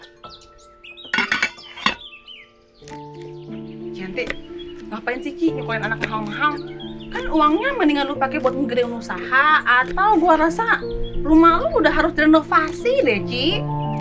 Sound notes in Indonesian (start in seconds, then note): none